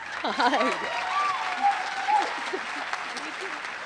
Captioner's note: applause